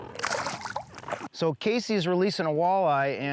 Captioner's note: water splashes